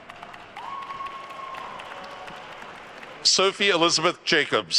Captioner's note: attendees cheering and applauding